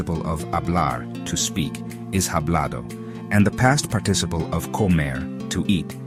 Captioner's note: hablado